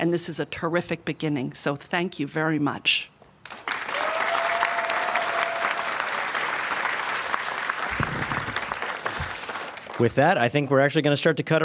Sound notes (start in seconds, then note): 6.3 applause